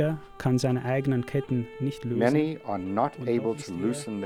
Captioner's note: German speaking